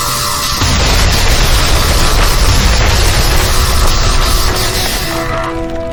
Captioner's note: explosions booming